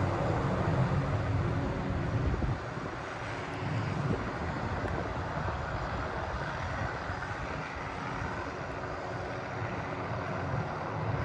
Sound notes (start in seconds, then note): 0.0 wind, distant helicopter